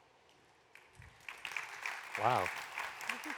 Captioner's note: applause